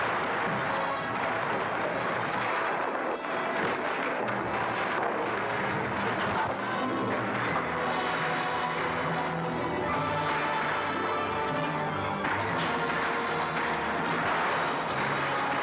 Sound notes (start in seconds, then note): 0.0 fire crackling & structure crashing down; 8.3 guns firing; 9.4 dramatic orchestral music